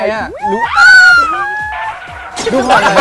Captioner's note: scream while watching